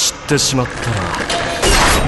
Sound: object opening; chains rattle; object opening

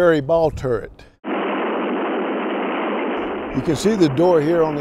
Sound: wind rushing

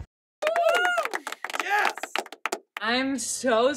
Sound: applauding and clapping sound effect

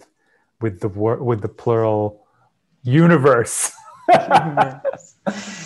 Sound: laughs

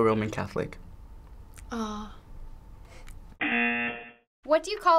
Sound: buzzer

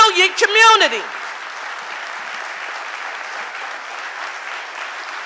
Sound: audience applauding

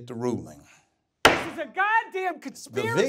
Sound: gabel knocking

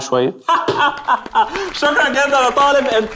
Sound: laughing

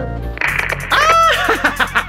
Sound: Static

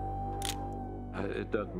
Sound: camera shutter

